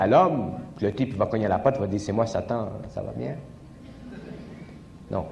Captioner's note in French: rires du public